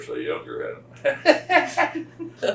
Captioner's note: laughs